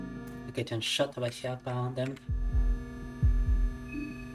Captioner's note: speaking in Russian